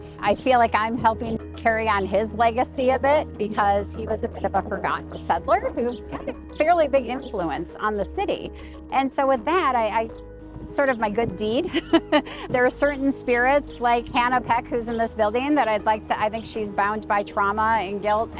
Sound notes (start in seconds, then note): 11.7 laughs